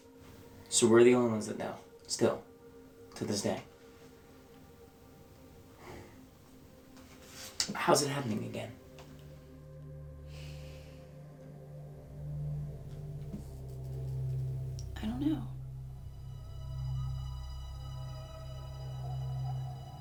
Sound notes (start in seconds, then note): 10.0 sighing; 17.0 soft synth music